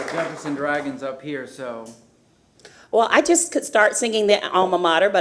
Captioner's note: applause